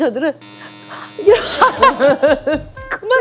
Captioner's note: panicking